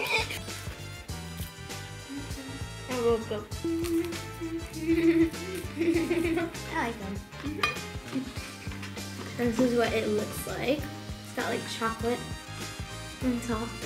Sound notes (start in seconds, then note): 0.1 upbeat music; 3.6 giggles